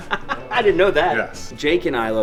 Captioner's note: laughing